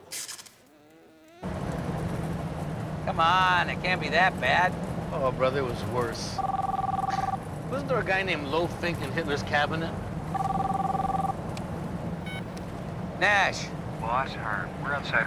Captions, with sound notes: Come on, it can't be that bad. (phone ringing) Oh, brother, it was worse. Wasn't there a guy named Lofink in Hitler's cabinet? (phone beeps on) Nash. Boss, Harve.